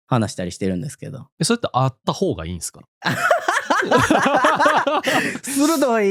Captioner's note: laughs